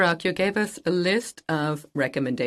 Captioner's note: speaking French